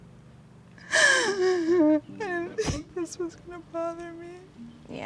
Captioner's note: crying